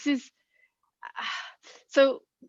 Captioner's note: sigh